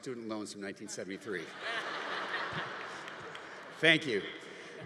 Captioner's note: audience laughing